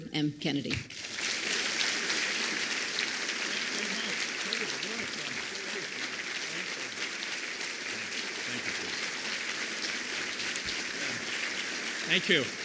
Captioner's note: applause